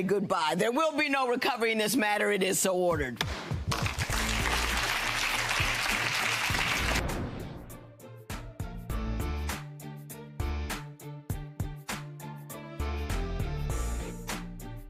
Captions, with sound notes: and now I'm gonna say goodbye. There will be no recovery in this matter, it is so ordered. (audience applauds) (dramatic music)